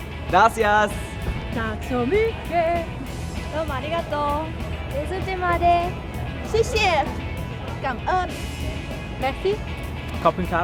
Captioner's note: speaking in Foreign Language